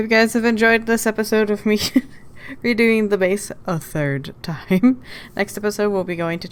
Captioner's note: laughs